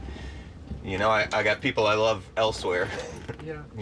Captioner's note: chuckles